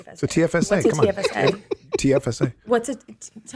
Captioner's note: Justin laughs